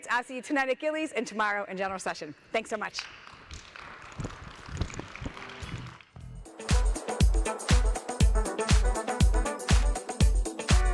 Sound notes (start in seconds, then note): 3.1 audience applauding; 6.2 upbeat music